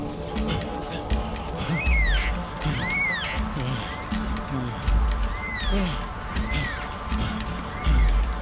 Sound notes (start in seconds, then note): 1.6 bird screeching